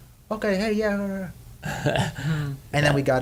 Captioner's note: laughs